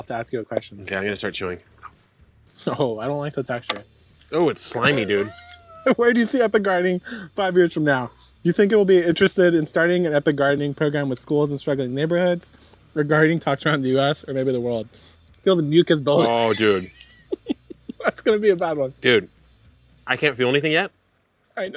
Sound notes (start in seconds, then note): 4.8 laughs